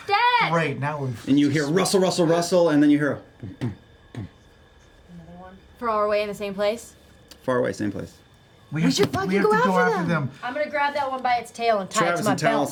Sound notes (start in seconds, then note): 4.4 thuds